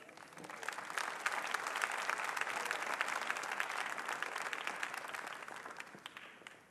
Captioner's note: applause